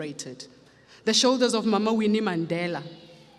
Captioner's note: speaks foreign language